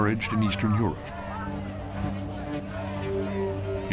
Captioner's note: people chanting